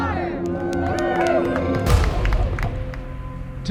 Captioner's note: cheering and applause; ominous tone